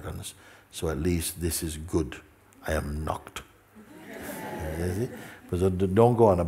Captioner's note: laughter